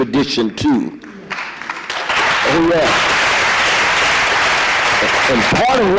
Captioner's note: audience applause